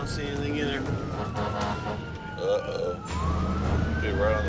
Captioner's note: horn honking